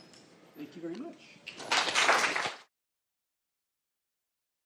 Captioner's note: applause